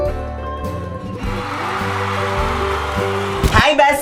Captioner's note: crowd applause